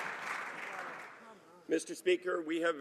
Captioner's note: some Applause